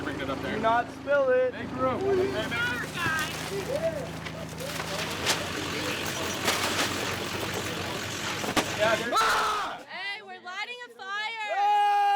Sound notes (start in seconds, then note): 2.2 paper rustling; 3.4 car engine purring; 11.4 yells